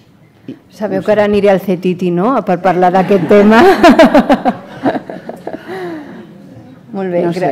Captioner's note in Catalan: riures